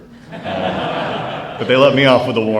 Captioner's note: laughter